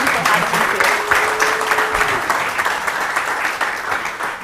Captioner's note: applause